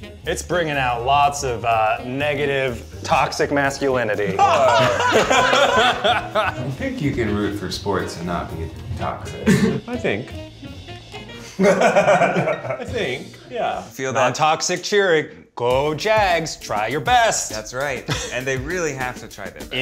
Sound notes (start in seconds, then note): 4.2 group laughs; 10.8 playful music; 11.4 Ned laughs